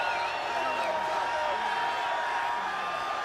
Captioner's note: crowd cheering; crowd chatter